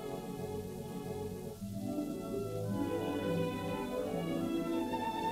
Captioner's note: none